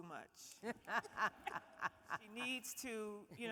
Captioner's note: all laughing